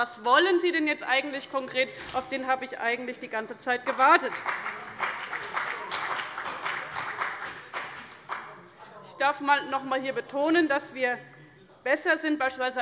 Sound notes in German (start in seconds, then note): 5.5 Beifall bei dem BÜNDNIS 90/DIE GRÜNEN und der CDU